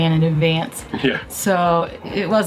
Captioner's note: laughs